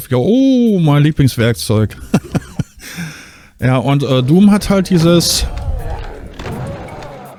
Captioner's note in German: gelächter; stöhnen